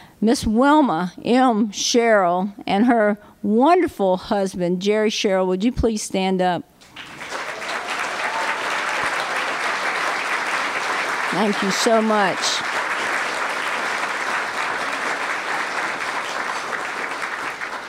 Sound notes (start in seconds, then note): 6.8 applause; 13.1 applause